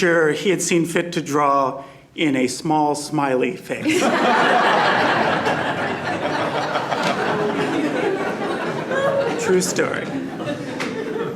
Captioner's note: laughter